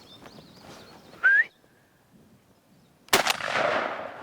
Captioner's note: whistles; gun fires